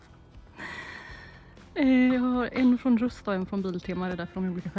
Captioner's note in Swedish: drar efter andan